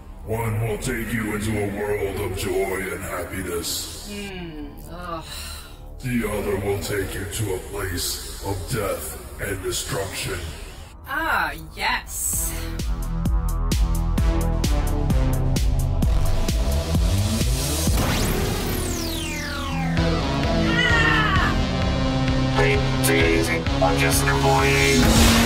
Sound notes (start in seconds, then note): 12.3 upbeat synth music; 17.9 explosion booms; 20.9 Azalla shouting